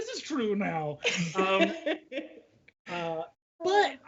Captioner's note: laughs